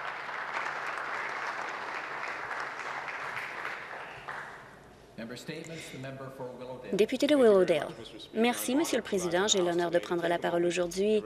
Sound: some Applause

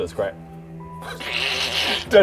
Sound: doubtful sniggering

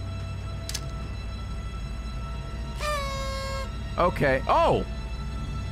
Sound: party horn noise

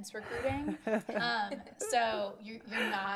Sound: laughter

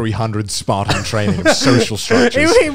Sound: all laughing

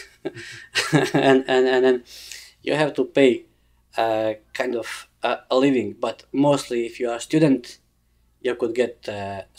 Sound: laughs

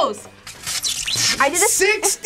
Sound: electricity crackles

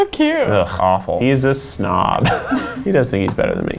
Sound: laugh

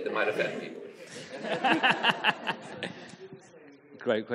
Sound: audience laughing

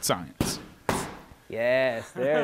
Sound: gloves smacking

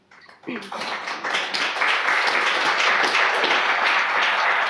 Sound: audience applauding

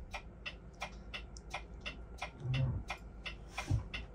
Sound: indicator ticking

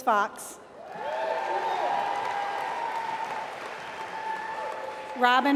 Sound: applause

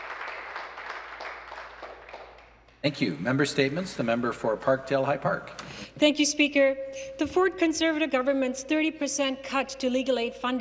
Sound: applause

